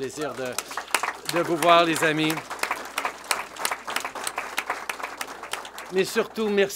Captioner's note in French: Applaudissements